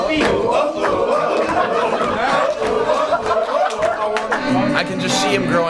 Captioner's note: crowd